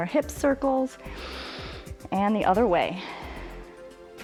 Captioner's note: inhales; exhales